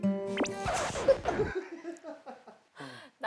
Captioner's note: pfff